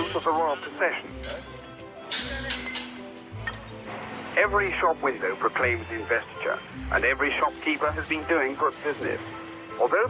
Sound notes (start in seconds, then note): 1.1 metal clanking; 1.9 workers chattering